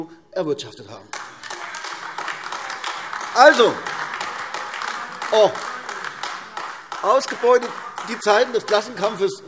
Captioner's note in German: Beifall AfD - Zurufe DIE LINKE